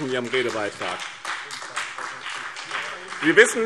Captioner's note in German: Beifall BÜNDNIS 90/DIE GRÜNEN und vereinzelt CDU